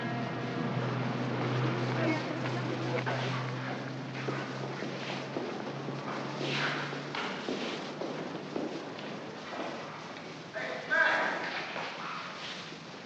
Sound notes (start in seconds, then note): 0.3 city street sounds; 3.1 footsteps